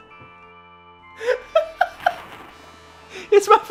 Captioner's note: laughter